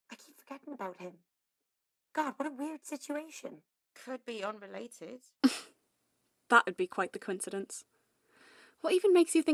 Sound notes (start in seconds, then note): 5.3 Lily snorts